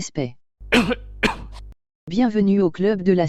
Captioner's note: cough